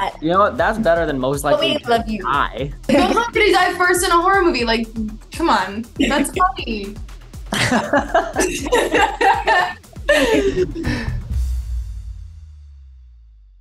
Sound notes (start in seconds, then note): 7.5 laughs